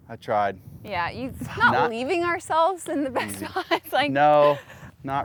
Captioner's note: laughs